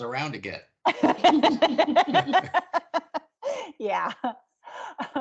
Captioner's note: everyone laughing; laughing